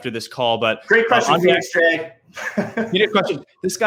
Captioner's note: chuckling